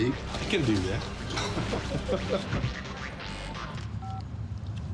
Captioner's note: chuckles